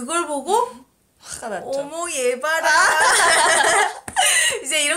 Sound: laugh

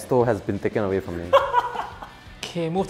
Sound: laughs

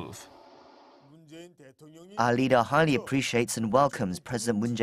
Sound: Korean

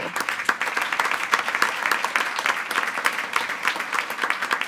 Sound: attendees applauding

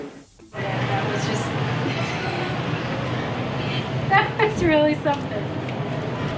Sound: laughs

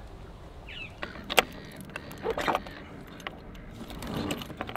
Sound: birds squawking

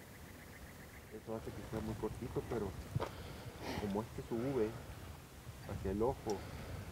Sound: Spanish

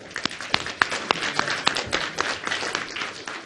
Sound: clapping

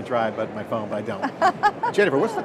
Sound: laughter

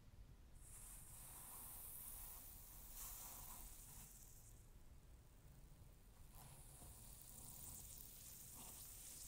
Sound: a soft skhh

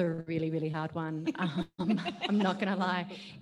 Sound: laughs

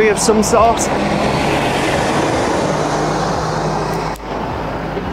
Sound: large vehicle driving

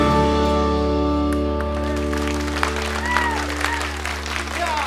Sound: cheers and applause

